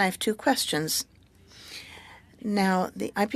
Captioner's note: speaking French